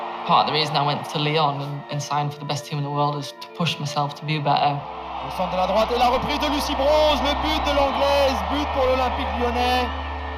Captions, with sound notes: Part of the reason I went to Lyon and signed for the best team in the world is to push myself to be better. (foreign commentary)